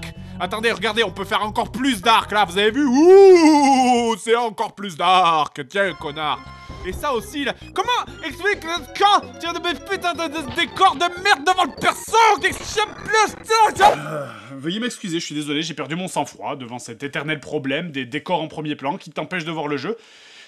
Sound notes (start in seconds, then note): 12.5 anger stammering; 13.8 sigh